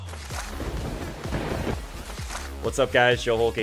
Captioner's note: thunder crackling